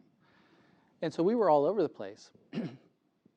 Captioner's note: cough